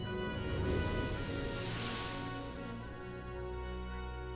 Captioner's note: air whooshing